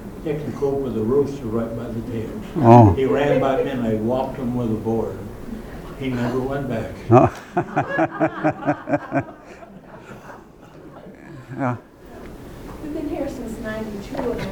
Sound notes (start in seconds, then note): 7.0 laughter